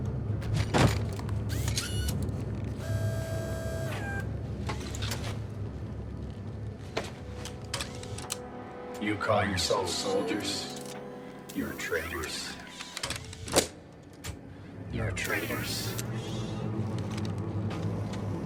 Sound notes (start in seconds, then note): 1.4 robot whirring; 8.9 automated Voice